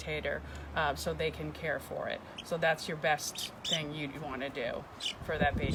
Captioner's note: chirps